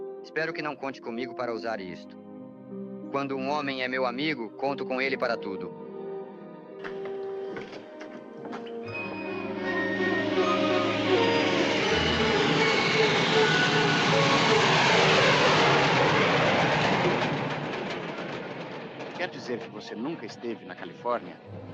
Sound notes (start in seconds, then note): 11.1 train rumbling